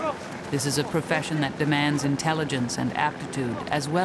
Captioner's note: voiceover